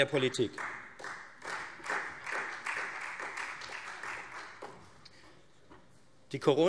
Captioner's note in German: Beifall Freie Demokraten und vereinzelt SPD